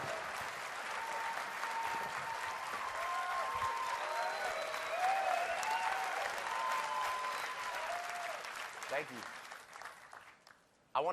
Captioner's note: cheers and applause